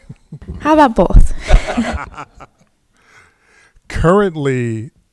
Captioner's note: laughing